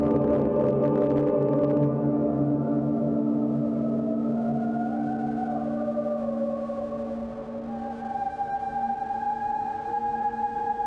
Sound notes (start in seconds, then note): none